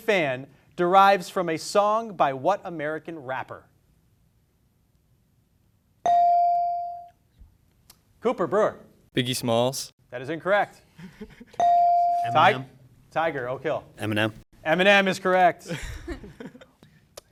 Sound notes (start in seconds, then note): 5.6 beep; 10.7 chuckling; 11.8 beep; 15.8 students chuckling